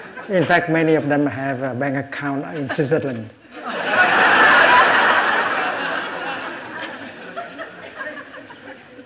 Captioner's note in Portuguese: risos